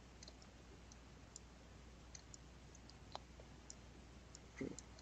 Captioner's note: mouse clicking